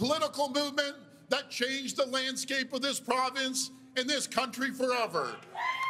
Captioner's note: cheers and Applause